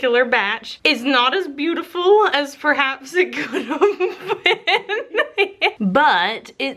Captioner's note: laughs